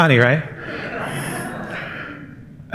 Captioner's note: laughter